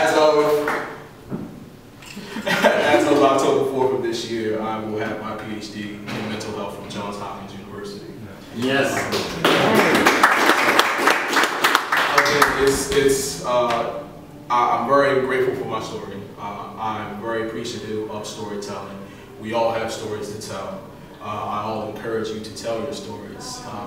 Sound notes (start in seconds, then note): 8.8 applause